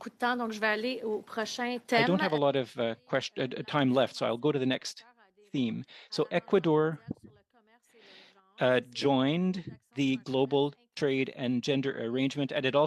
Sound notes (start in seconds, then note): 5.2 speaking French